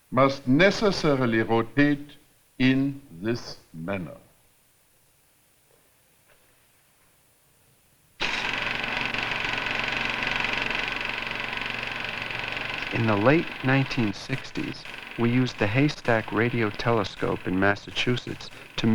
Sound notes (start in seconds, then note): 8.3 projector whirring